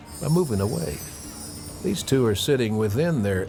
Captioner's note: bells chiming